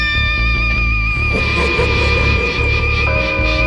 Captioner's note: sinister laugh